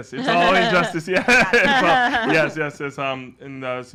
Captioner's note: laughs